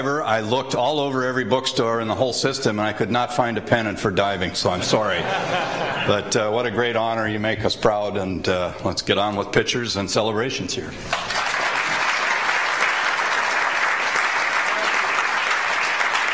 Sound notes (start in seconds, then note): 4.7 audience laughs; 11.1 attendees applaud